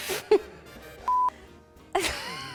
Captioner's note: electronic beeping; laughs